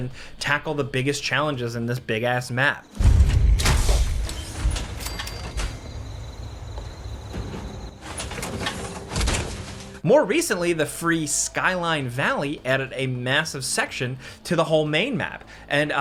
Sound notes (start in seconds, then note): 3.4 bell dings; 3.4 power armor clanking